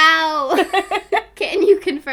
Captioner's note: both laughing